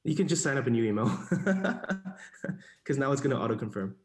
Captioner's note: laughs